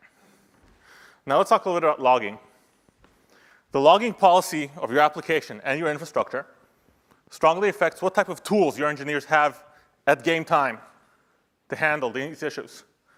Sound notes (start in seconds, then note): none